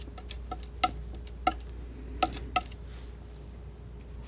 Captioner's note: scissors snipping